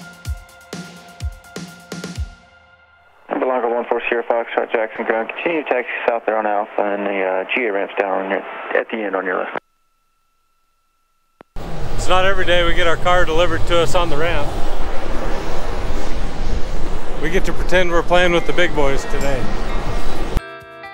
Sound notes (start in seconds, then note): 0.0 upbeat music continues; 12.7 engine roaring; 20.7 upbeat music